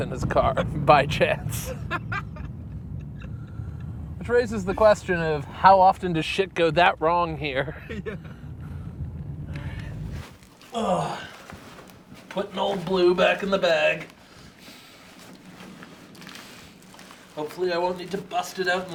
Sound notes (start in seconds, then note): 1.4 laughing; 10.6 grunting